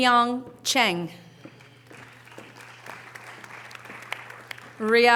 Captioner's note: audience applause